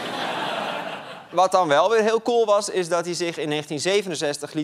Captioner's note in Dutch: gelach